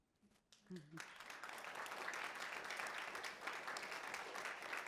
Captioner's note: audience clapping